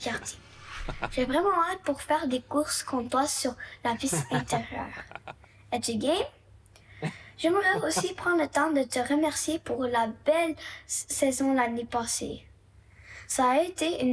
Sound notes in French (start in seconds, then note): 4.0 rires